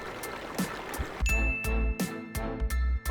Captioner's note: royalty-free music plays; ding; royalty-free music plays